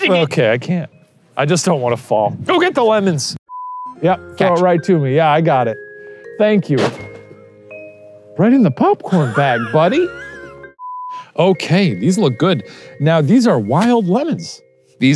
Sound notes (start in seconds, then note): 3.5 screen beeping; 6.6 lemon crashing; 9.0 laughing; 10.8 screen beeping